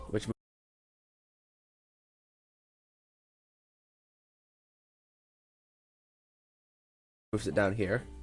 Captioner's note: silence